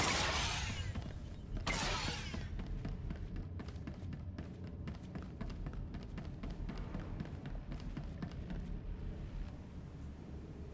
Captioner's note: gun firing